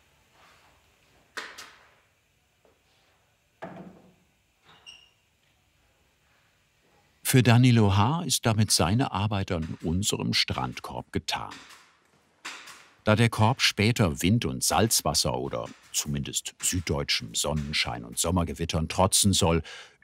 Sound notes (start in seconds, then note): 4.7 squeaking